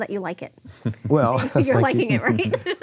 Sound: laughing

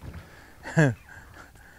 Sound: fish splashing; chuckling

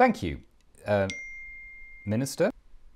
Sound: ping

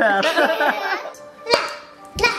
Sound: laughing

